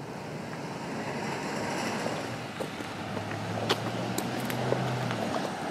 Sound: car engine revving

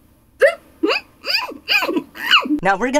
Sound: muffled struggling

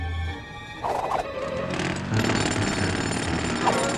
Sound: jackhammer hammering

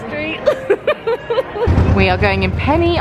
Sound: laughing

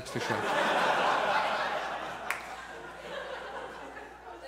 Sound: audience laughs

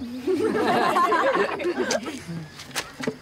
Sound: chuckles; laughing

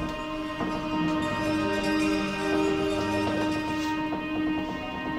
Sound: door creaks

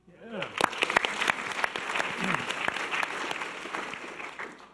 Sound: audience applause

